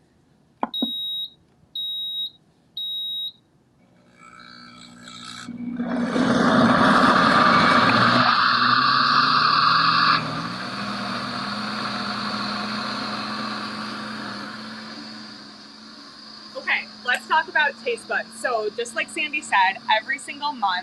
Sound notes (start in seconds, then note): 0.6 electronic beeping; 5.0 blender whirring